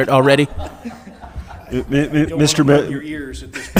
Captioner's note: audience members laughing